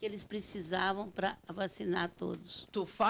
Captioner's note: speaking Portuguese